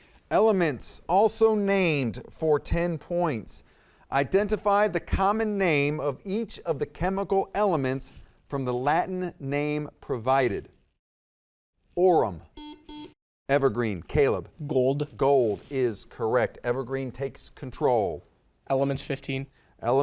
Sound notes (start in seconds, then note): 12.5 buzzer dings